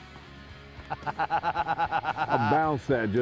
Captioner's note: laughter